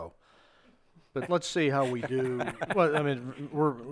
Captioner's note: laughs